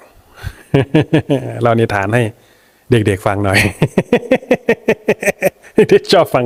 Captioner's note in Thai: เสียงหัวเราะ